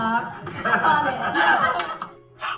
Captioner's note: laughing